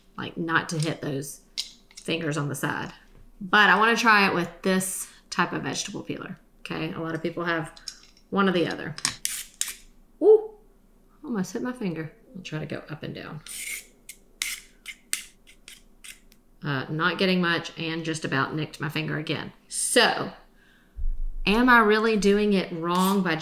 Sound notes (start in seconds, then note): 9.1 peeler scraping; 13.4 scraping carrot